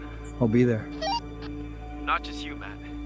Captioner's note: radio squelch